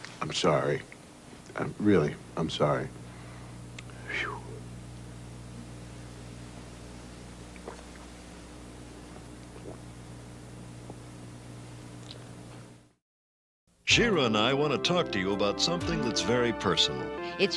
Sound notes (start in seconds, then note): none